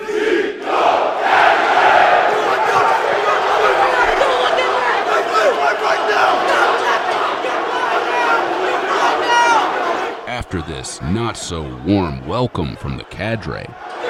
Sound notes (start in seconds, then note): 2.6 cadre yelling